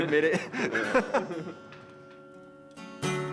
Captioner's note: laughs